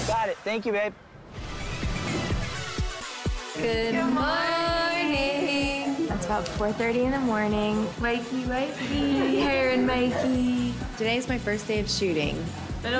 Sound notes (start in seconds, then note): 1.4 upbeat electronic music; 8.8 laughing